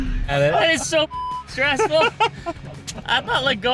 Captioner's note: laughing; beep